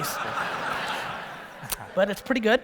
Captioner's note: audience laughter